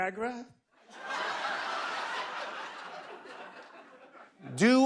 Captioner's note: laughter